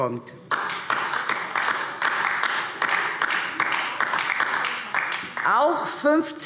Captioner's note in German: Beifall DIE LINKE